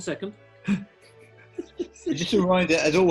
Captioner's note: giggling